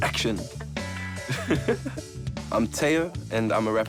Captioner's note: laughing